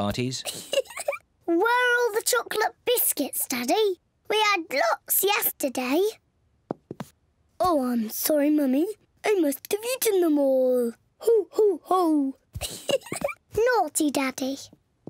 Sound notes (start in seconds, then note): 0.5 laughs; 7.2 in deep voice; 12.6 giggles; 13.4 in normal voice